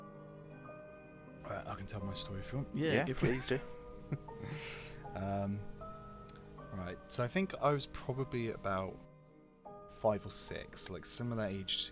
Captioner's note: laughs